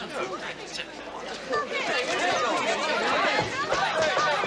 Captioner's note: crowd yelling angrily